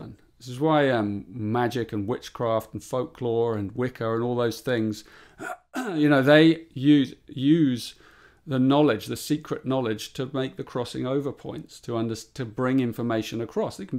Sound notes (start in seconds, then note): 5.4 clears throat